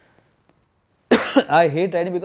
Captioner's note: coughs